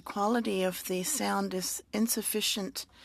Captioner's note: speaking French